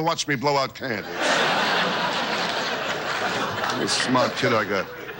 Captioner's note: audience laughs